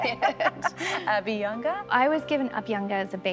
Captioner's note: laughter